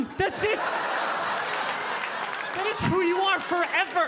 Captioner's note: audience laughing